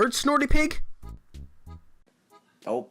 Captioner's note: dead silence